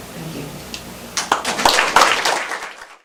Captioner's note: applause